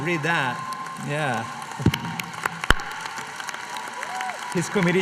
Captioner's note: applause